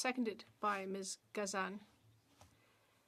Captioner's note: speaking French